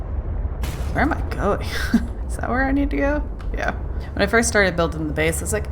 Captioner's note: laughs